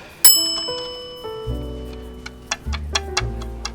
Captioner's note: bell dings